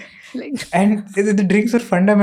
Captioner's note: speaks in Hindi